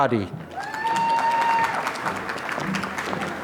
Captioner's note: applause